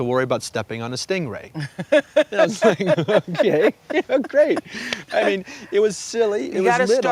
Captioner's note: laughter